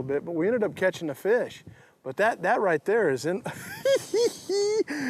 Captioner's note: laughs